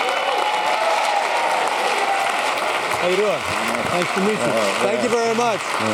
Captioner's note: applause